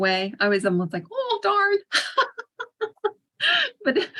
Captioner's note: laughs